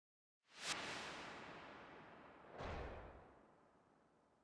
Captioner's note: graphic whooshing